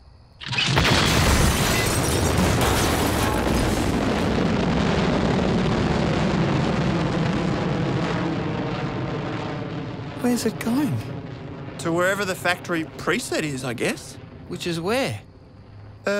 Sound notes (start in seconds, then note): 0.2 blast; 5.1 missile roars